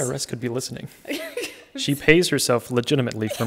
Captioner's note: laughing